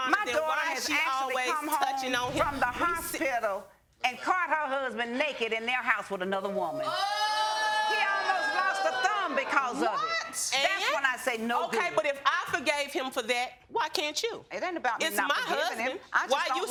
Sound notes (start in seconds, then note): 6.8 audience exclaiming in shock